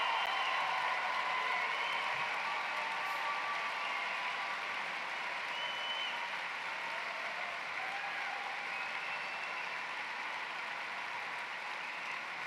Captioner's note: cheering and applause